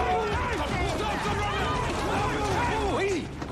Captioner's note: all shouting